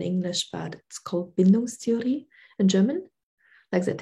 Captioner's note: speaking german